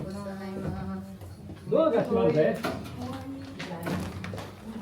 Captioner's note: guests speaking Japanese